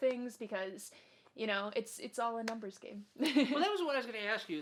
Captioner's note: laughs